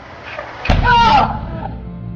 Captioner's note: somber music; Gabriella screaming and groaning